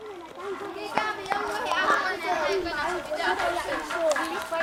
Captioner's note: kids talking